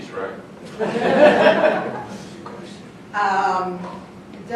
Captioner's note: group laughing